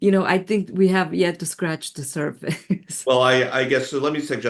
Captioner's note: laughs